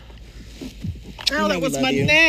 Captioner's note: kiss smack